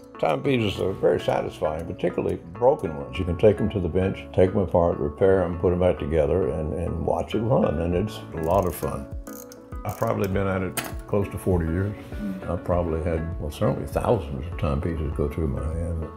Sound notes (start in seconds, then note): 9.2 watch winding